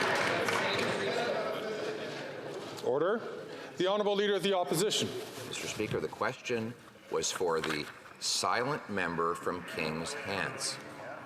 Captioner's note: some Applause